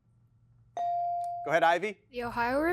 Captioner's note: bell chiming